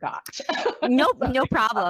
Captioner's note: laughs